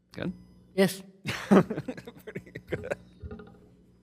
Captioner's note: laughs